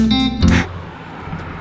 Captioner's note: blows on hands